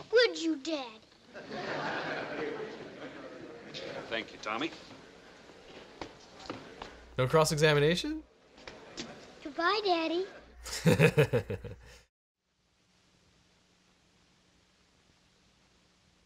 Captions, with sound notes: Would you daddy? (courtroom laughing) - Thank you Tommy. - No cross-examination? - Goodbye daddy. (laughing)